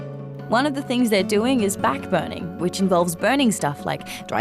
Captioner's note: none